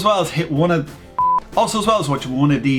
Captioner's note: beep